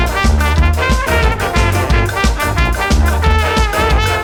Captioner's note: laughing in Scandinavian